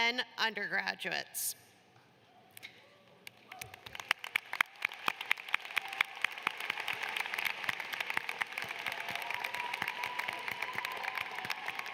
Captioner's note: applause